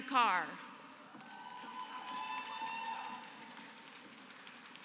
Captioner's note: applause